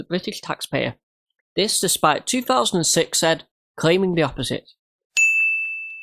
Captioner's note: ding